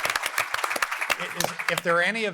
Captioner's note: applause